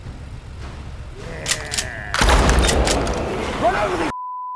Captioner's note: gun snaps and fires